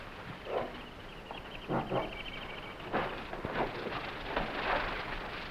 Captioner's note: jungle animals chattering